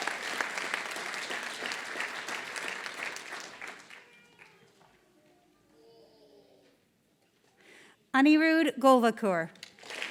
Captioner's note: applause; applause